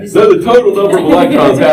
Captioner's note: laughter